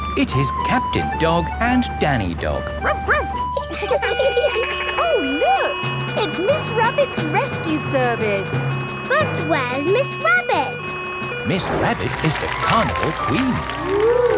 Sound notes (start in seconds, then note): 2.8 barks; 2.9 laughing; 3.9 sirens sounding